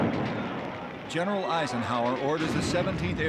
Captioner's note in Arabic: الانفجارات